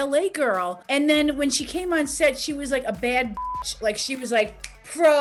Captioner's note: beep